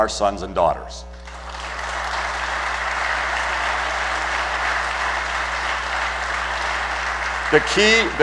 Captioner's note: applause